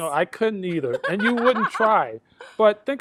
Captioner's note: laughs